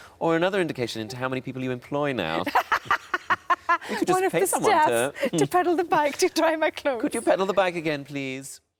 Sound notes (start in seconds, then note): 2.4 laughs